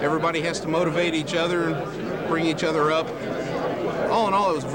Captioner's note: loud crowd in background